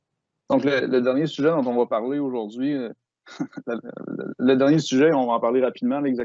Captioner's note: speaking in foreign language